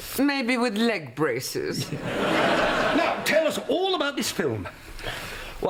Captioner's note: country accent